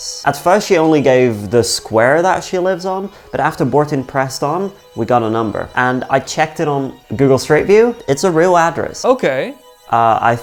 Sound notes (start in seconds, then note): none